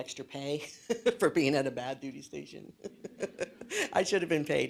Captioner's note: laughs; laughs